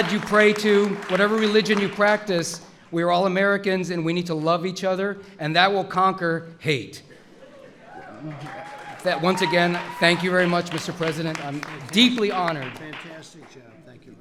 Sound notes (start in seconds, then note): 8.0 applause